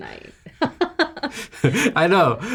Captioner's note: chuckling